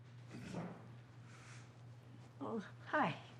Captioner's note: John's throat clears